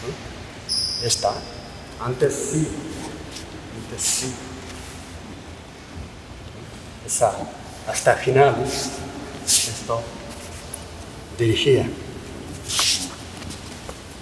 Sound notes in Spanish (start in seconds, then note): none